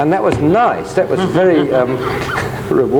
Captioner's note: chuckles